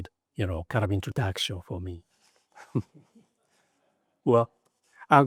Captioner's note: chuckles